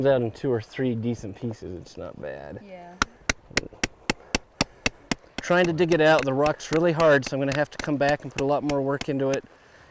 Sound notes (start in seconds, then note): 3.0 hammering